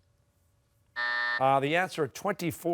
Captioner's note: buzzer